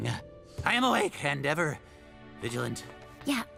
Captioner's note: grunts and groans